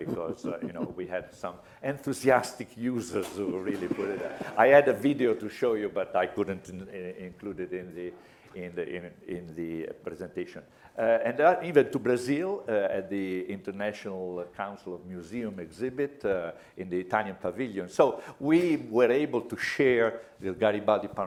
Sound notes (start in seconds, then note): 3.2 laughter